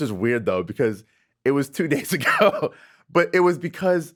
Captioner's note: laughing